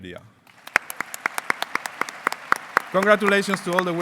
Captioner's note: applause